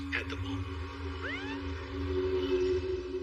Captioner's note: police siren whoops